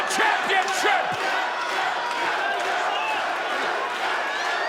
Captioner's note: crowd chanting